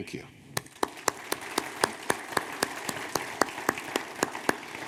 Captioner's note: audience applauding